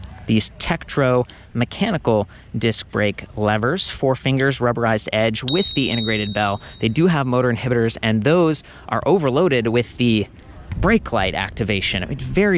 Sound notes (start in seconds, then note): none